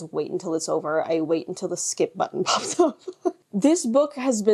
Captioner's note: chuckles